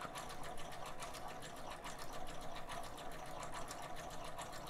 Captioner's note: sewing machine humming